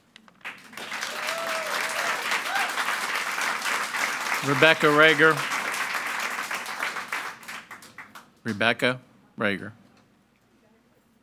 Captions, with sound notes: (audience clapping) - Rebecca Rager, Rebecca Rager.